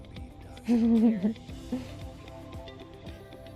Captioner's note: laughs